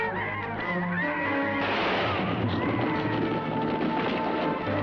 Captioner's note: gun firing